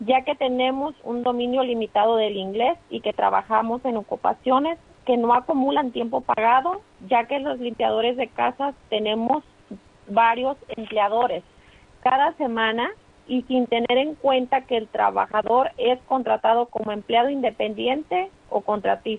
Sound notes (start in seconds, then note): 0.7 speaking in foreign language